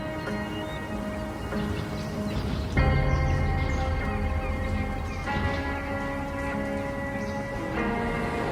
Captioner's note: birds chirping